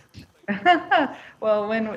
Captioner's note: laughs